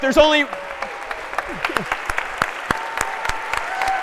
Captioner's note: applause